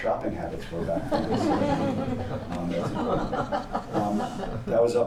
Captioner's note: laughter